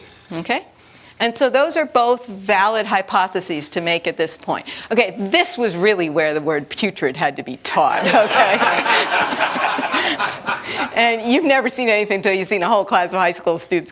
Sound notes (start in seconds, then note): 8.0 laughter